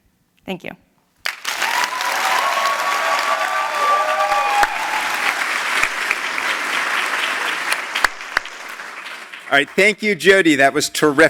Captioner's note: applause